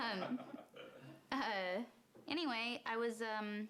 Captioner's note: laughter